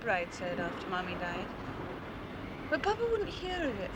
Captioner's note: none